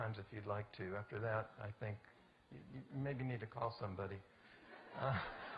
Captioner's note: audience: Laughter